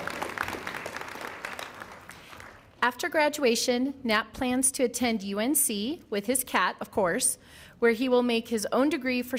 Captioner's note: applause